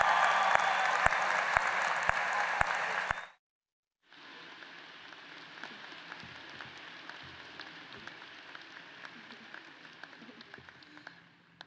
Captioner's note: applause